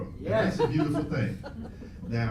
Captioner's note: cheering